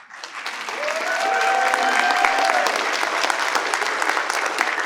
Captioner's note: participants applaud